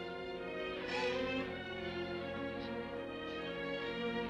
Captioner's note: sobbing